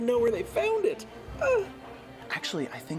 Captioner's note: sobs